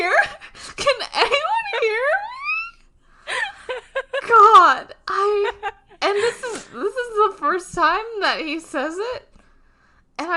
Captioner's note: laughs